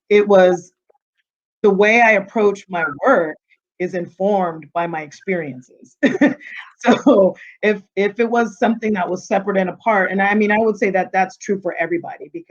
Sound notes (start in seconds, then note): 5.8 chuckling